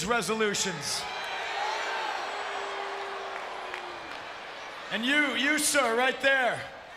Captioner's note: applause